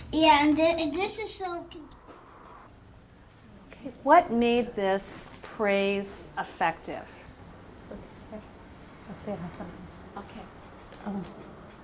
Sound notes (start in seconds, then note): 4.2 voiceover